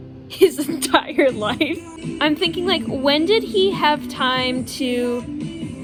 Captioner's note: laughs